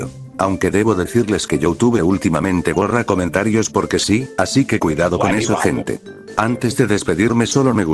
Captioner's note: webi wabo sound effect on